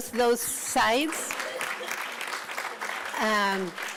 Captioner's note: applauds